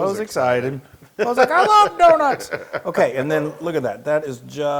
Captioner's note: laugh